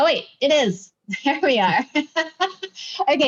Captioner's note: laughs